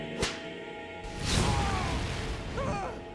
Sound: screaming

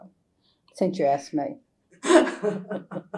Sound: laughter

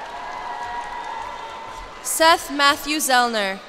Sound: cheers and applause

